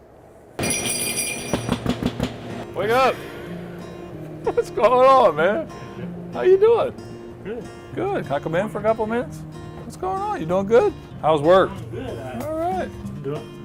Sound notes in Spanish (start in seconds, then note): 0.6 suenan las campanas; 1.6 llaman a la puerta